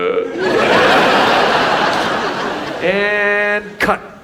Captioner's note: audience laughs